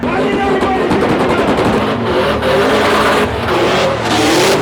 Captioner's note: car engine roaring